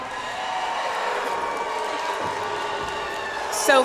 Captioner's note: audience applauds